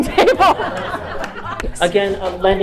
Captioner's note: crowd laughing